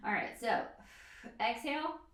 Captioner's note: exhales breath